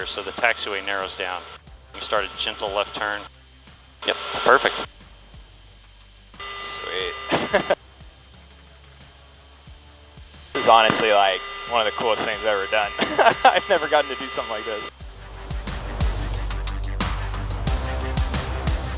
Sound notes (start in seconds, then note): 7.3 laughs; 13.0 laughs; 16.0 light rock music